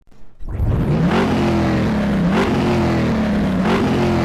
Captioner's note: engine revs